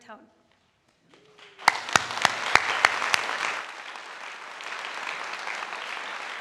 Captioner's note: audience applauding